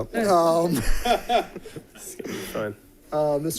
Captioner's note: laughter